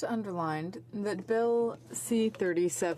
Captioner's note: speaking in french